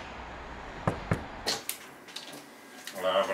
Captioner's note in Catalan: Llaman a la puerta